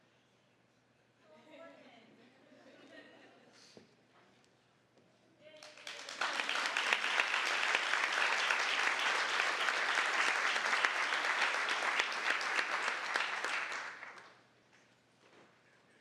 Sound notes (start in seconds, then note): 4.1 audience chuckling; 5.5 applause